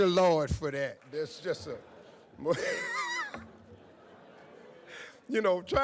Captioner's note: laughs